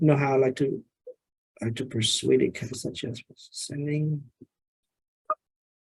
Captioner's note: faintly speaking